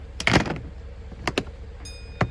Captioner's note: lid clinks